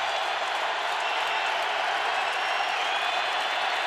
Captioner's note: crowd cheering